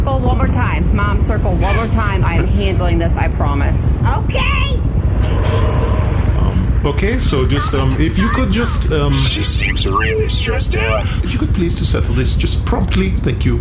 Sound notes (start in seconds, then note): 9.0 driving away